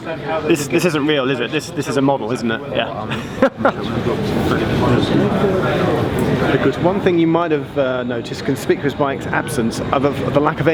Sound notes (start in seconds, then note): 3.0 laughs